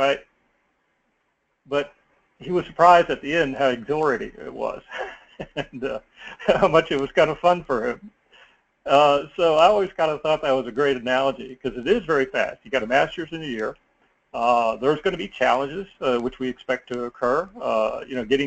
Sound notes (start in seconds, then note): 4.8 laugh